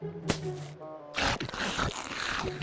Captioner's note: chewing